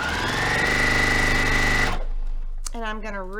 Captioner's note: sewing machine rattling